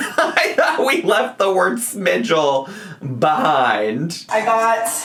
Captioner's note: laughs